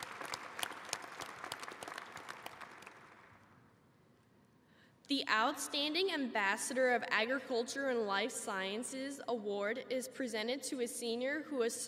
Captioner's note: applause